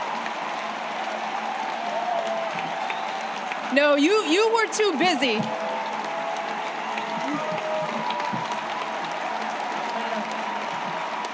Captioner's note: applause